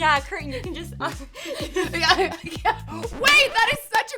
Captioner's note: laughing